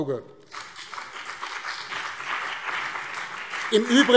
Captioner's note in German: Beifall BÜNDNIS 90/DIE GRÜNEN und CDU